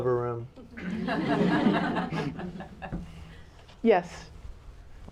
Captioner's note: laughter